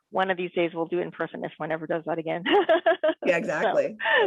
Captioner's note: laughs